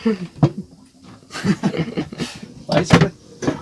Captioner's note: chuckling